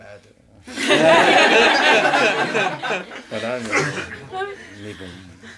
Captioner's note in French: rires